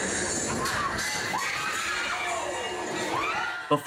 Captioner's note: guests scream